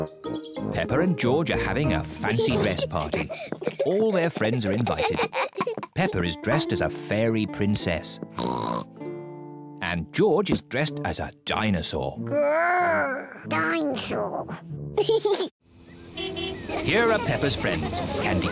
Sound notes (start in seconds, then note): 8.4 oinks; 14.7 giggles; 16.1 car horn honks